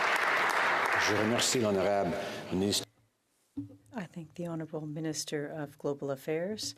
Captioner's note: applause